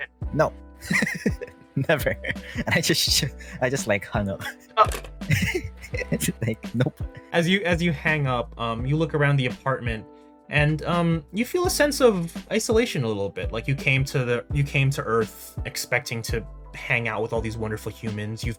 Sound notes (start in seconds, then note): 1.7 laugh; 5.3 click